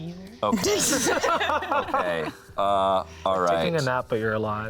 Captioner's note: laughs